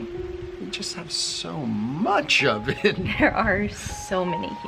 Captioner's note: chuckles